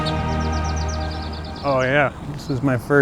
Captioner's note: birds chirping